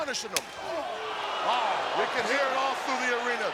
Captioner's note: audience exclaiming